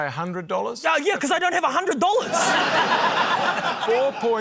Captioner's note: laughter